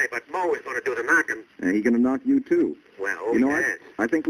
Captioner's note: on phone